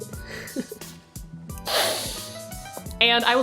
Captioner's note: sniff